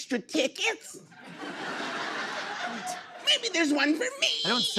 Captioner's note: laughter